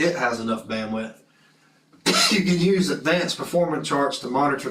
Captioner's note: cough